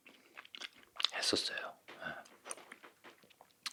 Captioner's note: A sudden whisper